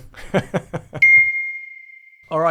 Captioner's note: laughs